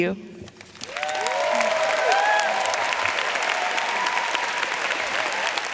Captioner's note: audience cheering and applauding